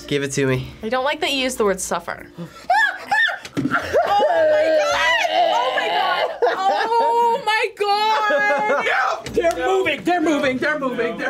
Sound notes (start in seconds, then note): 2.3 gasps; 3.7 laughs